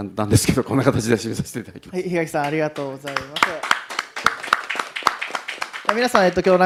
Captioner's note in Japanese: 拍手